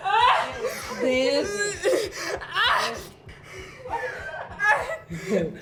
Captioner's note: Tish gasping and groaning